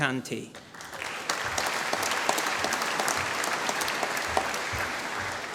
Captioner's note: applause